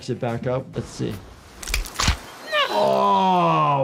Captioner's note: joint cracks